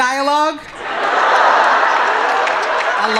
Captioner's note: laughter